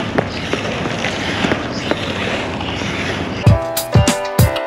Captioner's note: wheels creaking; upbeat techno music